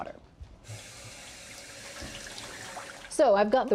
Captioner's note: running water